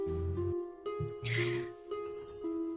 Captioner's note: gasp of inspiration